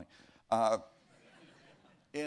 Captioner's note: laughter